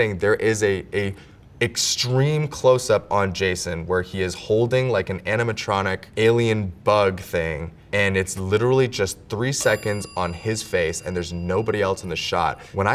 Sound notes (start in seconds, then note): 9.6 bell dings